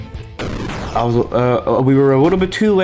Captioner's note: stutter Moment